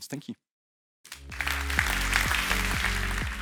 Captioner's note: audience clapping; upbeat music